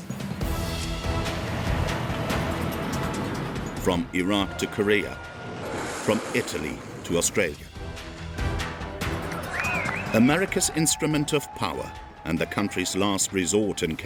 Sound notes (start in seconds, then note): 0.2 dramatic music; 9.1 crowd cheering